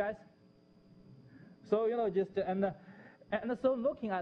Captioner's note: pause